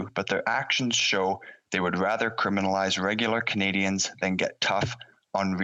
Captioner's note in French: voix de l'interprète